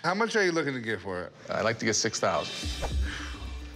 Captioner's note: exhales